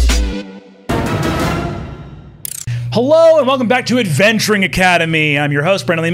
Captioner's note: none